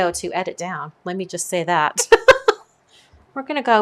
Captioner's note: laughs